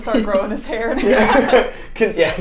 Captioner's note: all laughing